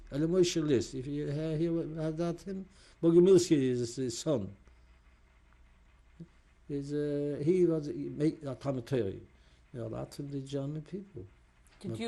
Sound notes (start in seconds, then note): 3.0 hebrew